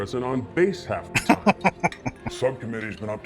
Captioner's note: laughing